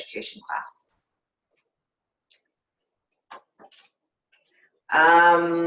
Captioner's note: silence